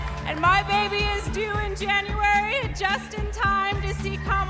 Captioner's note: cheers and applause